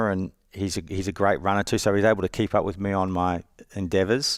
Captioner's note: none